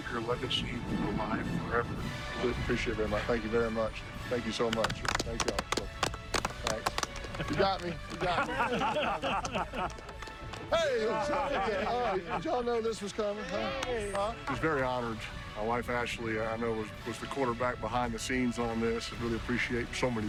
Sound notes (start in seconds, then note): 8.2 applause; 10.7 laughter